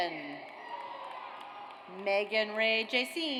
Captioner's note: audience cheers